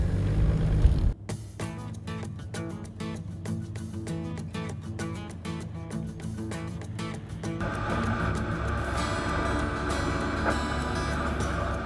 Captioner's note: music background and vehicle sounds